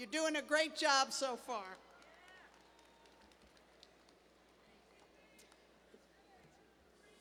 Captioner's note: applause